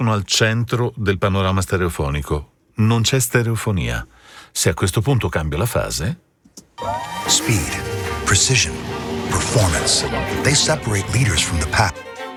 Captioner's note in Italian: Applauso